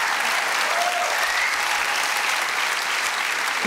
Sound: applause

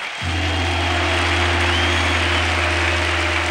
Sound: audience applauding

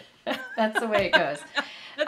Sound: laughing

